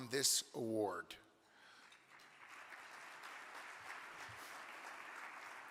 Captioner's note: audience clapping